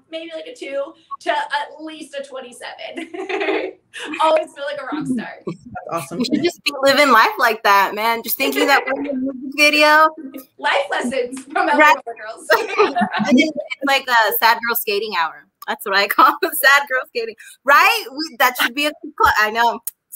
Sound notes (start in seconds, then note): 3.0 giggles